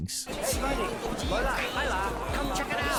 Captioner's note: passersby chattering indistinctly